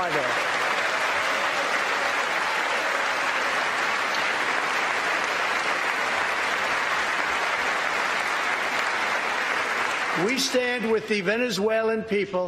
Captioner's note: applause